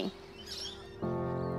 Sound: birds chirping; gentle music

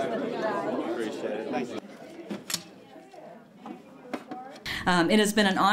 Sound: crowd

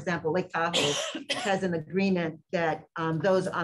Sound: coughing

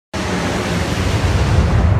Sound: strong wind, airplane engine

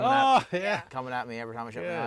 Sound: laughter

